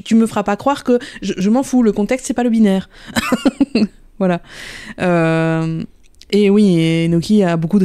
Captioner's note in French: rire